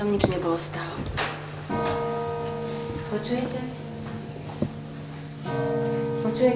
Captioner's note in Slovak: začnú odbíjať hodiny